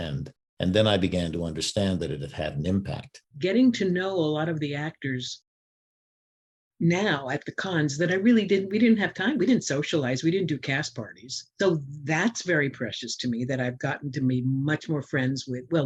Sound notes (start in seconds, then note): none